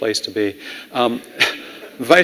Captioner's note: laughing